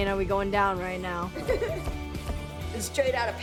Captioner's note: laughs